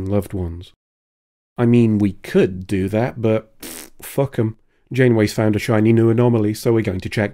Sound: pfft

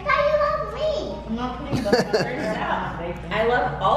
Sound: laughing

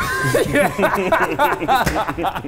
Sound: men laughing

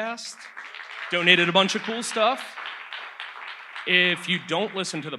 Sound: audience applauds

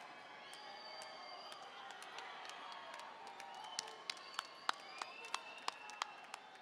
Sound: administrators applauding

